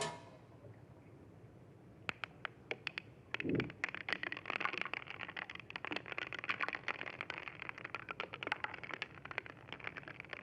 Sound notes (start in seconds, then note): 0.0 metal clanging; 5.5 crackling